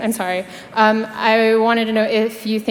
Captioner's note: none